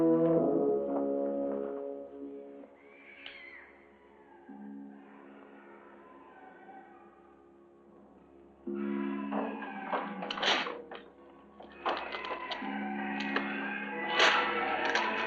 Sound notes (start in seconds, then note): 2.6 distant wailing noises; 9.2 clattering outside door